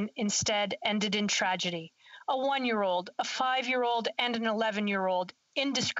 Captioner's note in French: voix de l'interprète